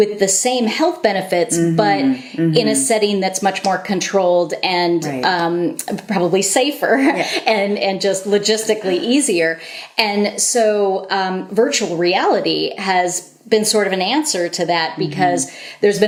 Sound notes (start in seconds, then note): 5.5 laughter